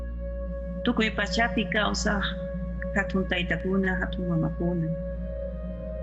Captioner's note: mysterious music; person speaking in foreign language